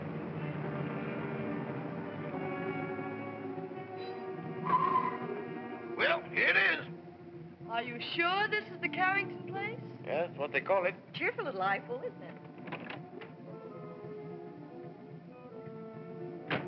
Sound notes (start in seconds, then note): 3.8 tires squeal; 13.1 ominous music